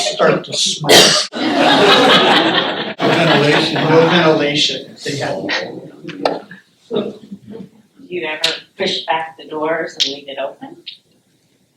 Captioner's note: laughter